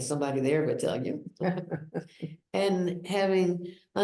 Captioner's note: chuckles